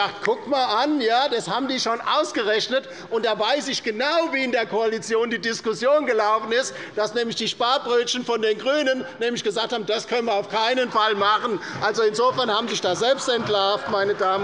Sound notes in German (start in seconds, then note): 10.5 Heiterkeit bei Abgeordneten der LINKEN, der SPD und der FDP